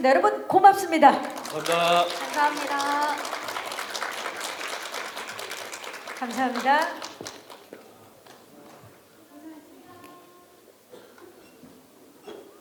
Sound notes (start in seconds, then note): 3.9 applause